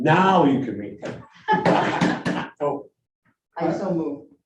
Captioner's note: all laughing